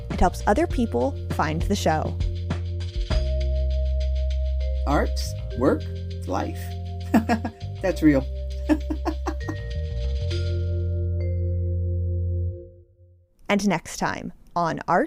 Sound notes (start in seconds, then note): 8.6 laugh